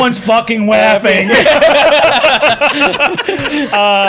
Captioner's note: laughter